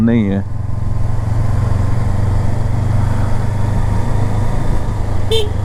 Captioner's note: engine thrum; honks